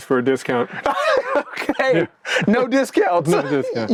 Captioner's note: laughs